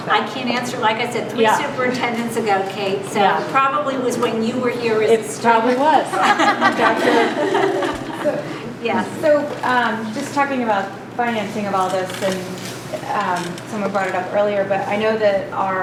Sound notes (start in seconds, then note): 6.1 laughter